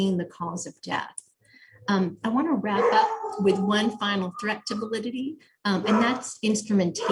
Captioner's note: dogs barking in background